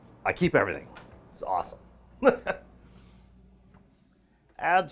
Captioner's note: laughs